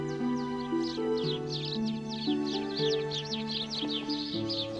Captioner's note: birds tweeting